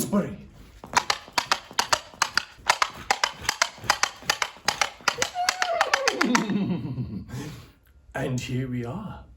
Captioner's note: horses hooves